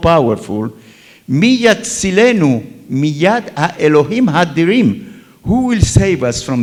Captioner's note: talks in Hebrew